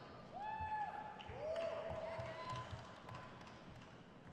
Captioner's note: crowd cheers